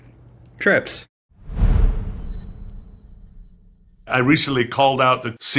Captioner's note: graphic whooshing